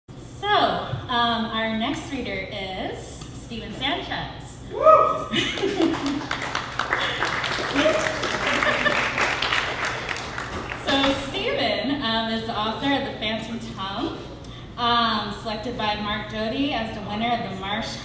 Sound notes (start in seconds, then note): 5.6 cheers and applause